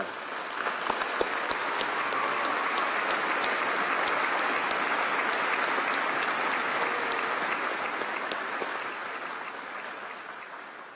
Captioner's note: applause